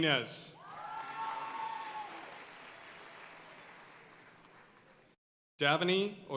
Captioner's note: audience cheering and applauding